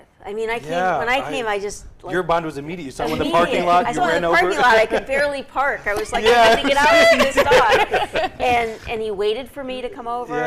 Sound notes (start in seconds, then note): 8.0 laughing together